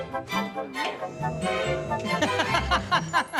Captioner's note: laughter